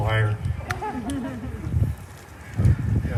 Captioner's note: laughter